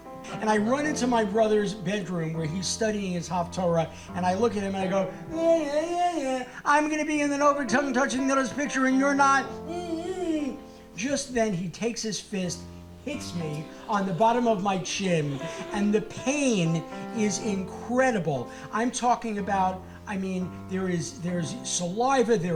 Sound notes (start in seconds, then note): 10.2 grunting; 13.0 audience laughing